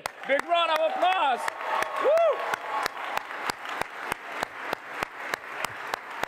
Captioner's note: applause